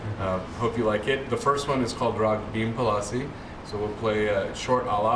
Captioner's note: non-english